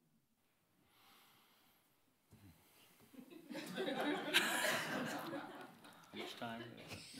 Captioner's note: audience laughing; man sighs